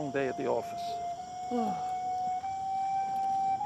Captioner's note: yawns